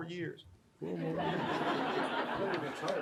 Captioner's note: audience laughs